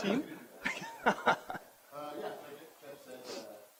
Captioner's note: chuckles